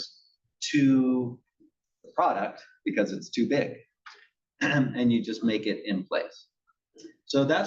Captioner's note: cough